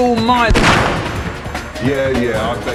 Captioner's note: gunshot